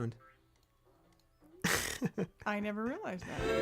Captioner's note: laughs